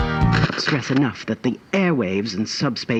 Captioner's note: transition: discordant noise as the tape jams